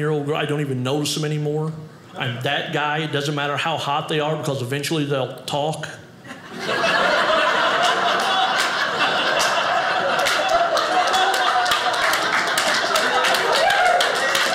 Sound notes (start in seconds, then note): 6.2 audience laughing